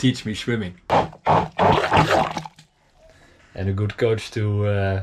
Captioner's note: blender sloshing